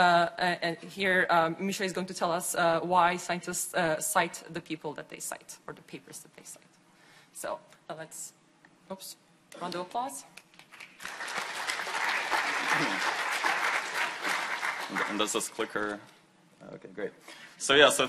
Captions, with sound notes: And here, Misha is going to tell us why scientists cite the people that they cite for the papers that they cite. So, round of applause. (audience applauding) - This clicker, okay, great.